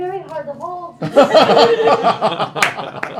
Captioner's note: laughter